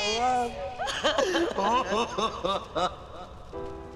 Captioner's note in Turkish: Ağlıyorlar